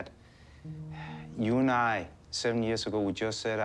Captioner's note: huffs